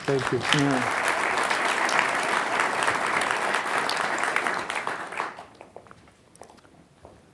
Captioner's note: applause